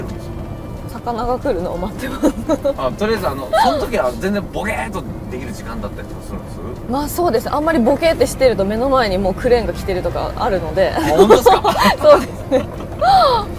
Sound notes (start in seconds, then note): 3.3 haha